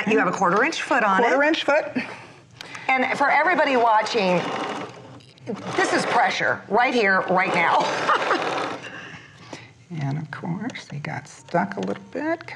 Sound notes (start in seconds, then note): 0.0 chuckling; 3.5 whirring; 7.9 chuckles